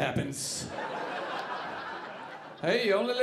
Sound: audience laughing

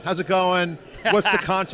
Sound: laughs

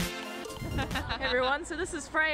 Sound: laughing

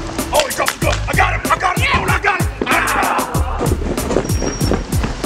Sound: yelling

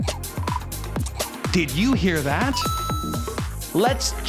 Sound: chime

